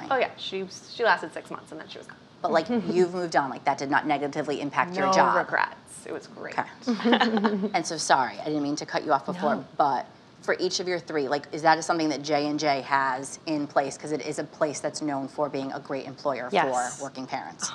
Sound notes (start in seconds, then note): 6.9 laughing